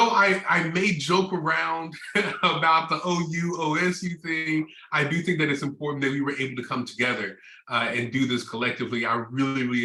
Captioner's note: laughter